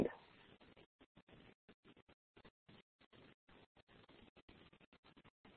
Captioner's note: silence